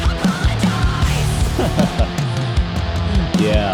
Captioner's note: guitar riff; laughs